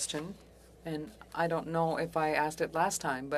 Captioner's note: speaking French